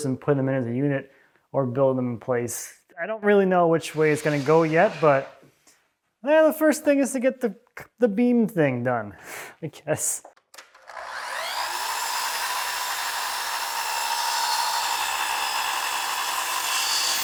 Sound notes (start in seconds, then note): 10.6 machine whirring